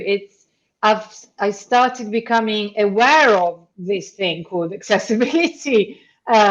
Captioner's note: chuckles